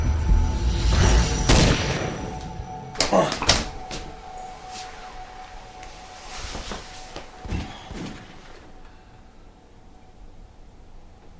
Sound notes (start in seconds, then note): 1.7 gun firing; 6.6 suspenseful music